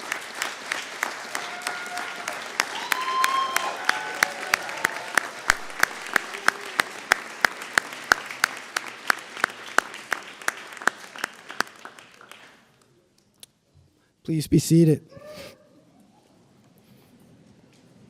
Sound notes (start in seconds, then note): 3.1 applause